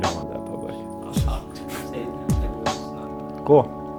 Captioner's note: laughs